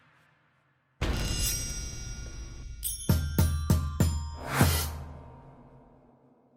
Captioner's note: bass drum hit; metal scraping